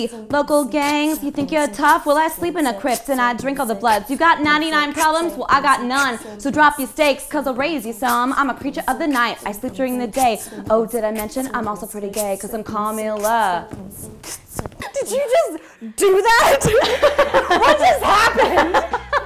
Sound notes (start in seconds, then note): 13.9 beatboxing continues; 16.4 laughter